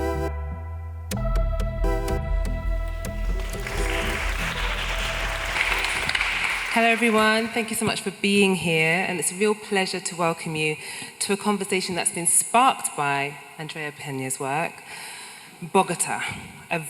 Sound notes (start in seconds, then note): 2.8 audience applauding